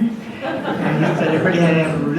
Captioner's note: audience laughs